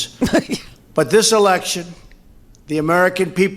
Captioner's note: laughs